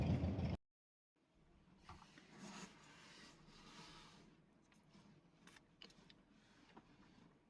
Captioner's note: car